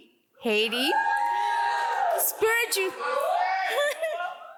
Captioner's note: audience applauds